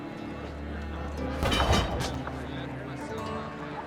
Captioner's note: clatter